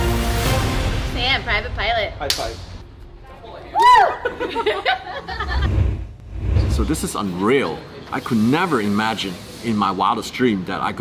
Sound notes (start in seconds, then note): 4.0 laughter